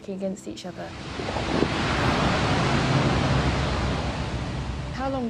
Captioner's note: ice crashing